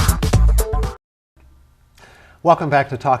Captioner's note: silence